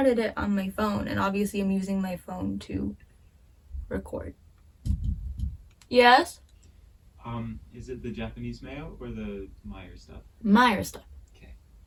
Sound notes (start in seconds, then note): 4.8 knock knock knock